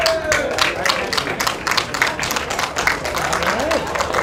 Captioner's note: applause